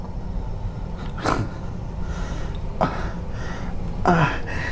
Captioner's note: Miles pants; Miles groans